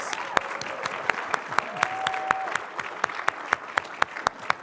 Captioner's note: applause